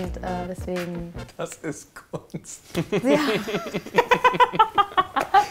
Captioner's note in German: alle lachen